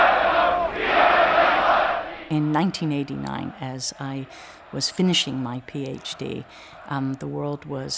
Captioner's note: chanting